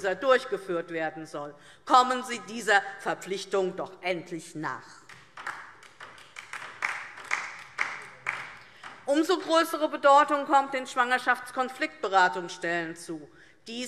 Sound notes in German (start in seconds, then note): 5.0 Beifall DIE LINKE